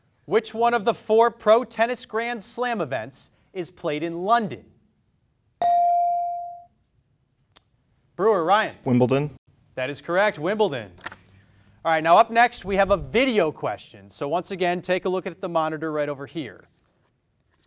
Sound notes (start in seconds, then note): 5.7 beep